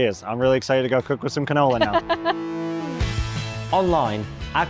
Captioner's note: laughs